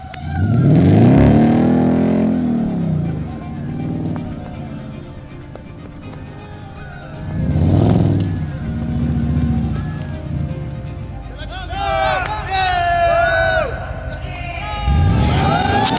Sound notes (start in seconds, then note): 0.0 engine vrooming; 8.0 cheering